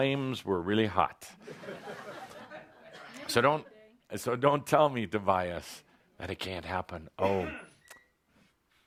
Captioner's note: laughter